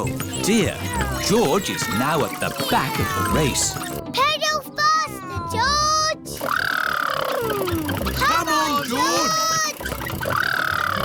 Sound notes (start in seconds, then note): 6.2 makes sputtering noises